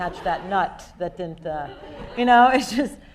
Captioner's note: people laughing